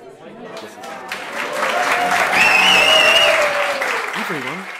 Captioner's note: crowd applauds and whistles